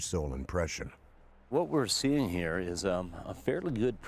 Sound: voiceover

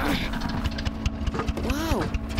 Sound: sputtering

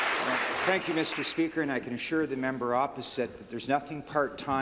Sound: applause

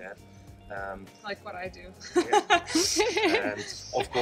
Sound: laughs

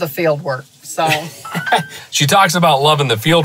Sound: chuckles

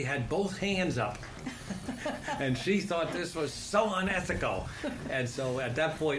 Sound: laughter

